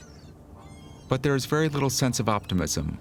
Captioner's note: birds squawking